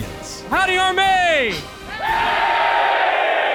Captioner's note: cheering